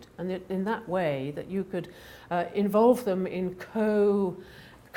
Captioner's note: none